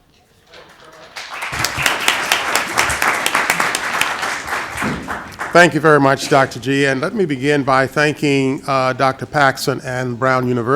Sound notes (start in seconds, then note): 0.5 applause